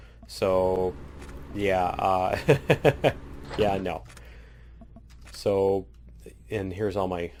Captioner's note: laughs